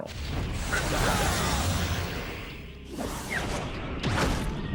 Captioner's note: grunting